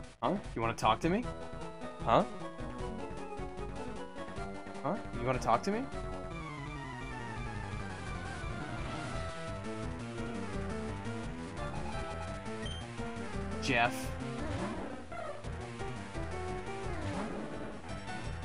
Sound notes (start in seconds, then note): none